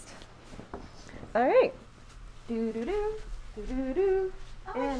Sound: humming

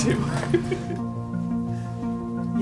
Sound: laughter

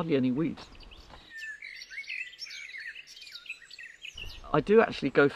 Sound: birds chirping

